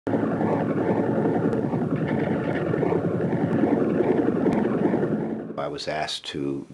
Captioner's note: helicopter whirring